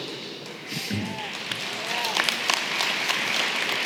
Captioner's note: applause